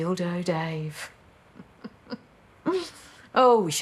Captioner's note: she chuckles